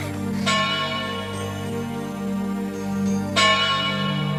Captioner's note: clock bell ringing